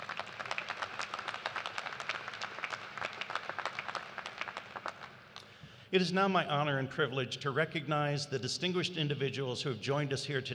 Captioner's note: applause